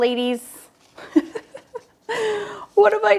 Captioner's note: laughs